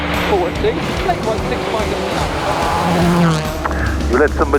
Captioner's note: motor revving